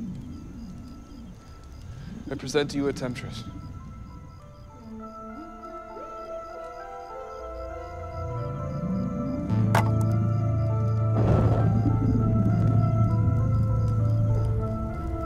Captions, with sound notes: - I present to you a temptress. (suspenseful music) (fire blazing)